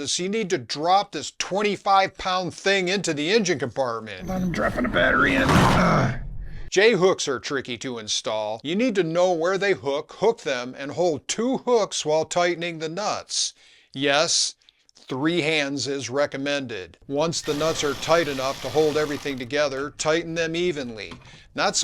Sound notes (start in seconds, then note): 5.3 slam